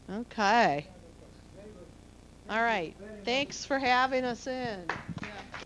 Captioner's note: audience applause